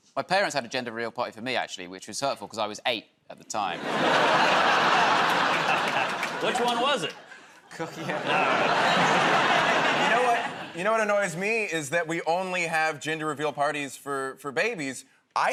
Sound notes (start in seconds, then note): 3.7 laughter